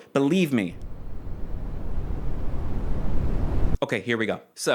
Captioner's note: stare growing in intensity illustrated via brown noise